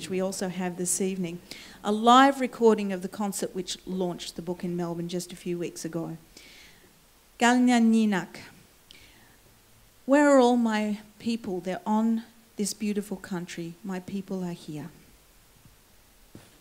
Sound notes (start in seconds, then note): 7.5 foreign words